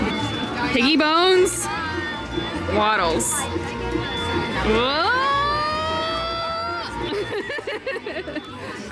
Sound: noises of hesitation... laughter

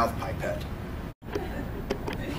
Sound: laughter

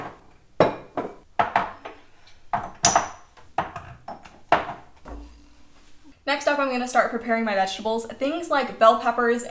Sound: spices clanking

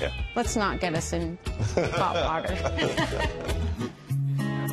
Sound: both laugh

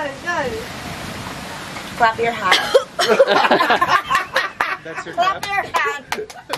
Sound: guide coughs - all laugh; laughing

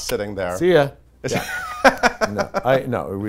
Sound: laughs

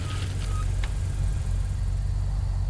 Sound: car breaks squeak

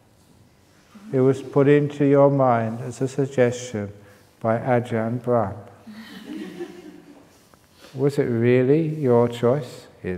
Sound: laughter

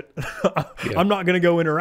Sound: chuckling

